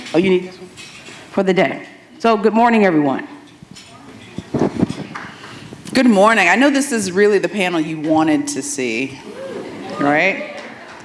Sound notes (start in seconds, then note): 4.2 scattered good mornings; 9.2 audience applauds